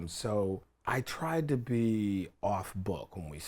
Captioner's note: none